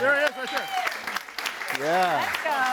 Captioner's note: audience applauds and cheers